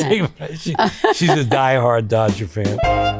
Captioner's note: laughs; Rhea laughs; instrumental jazz music